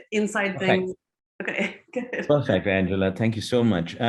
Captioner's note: laughing